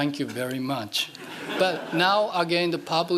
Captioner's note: laughing